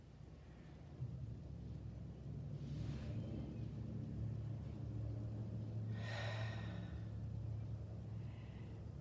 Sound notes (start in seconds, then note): 6.0 exhales